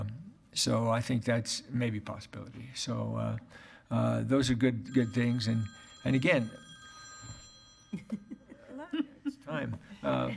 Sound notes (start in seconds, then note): 4.8 phone ringing